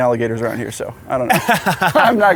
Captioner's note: laughs